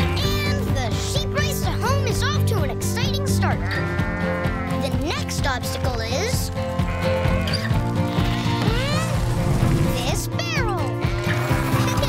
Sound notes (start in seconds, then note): 0.0 sheep baaing; 3.5 sheep baaing; 6.7 sheep baaing; 11.2 laughing